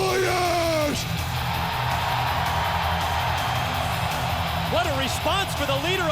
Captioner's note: audience cheering